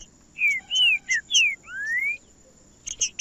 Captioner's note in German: trinca ferro cantando